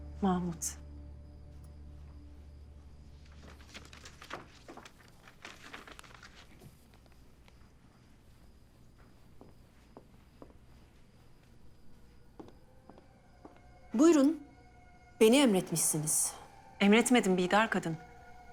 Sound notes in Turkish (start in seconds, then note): 3.1 Kâğıt hışırtı sesi; 7.5 Ayak sesi